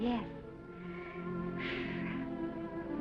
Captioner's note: Esther exhales; gentle music